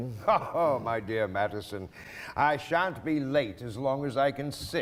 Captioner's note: laughs